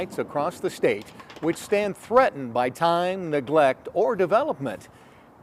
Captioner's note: ball shuffling; pins clattering